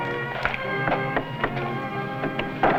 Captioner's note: knocking